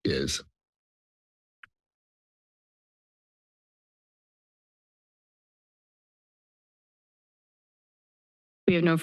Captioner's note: silence